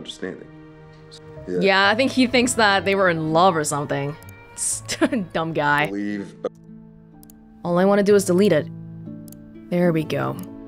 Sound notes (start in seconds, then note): 4.8 chuckles